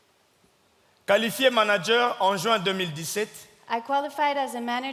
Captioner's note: speaking in French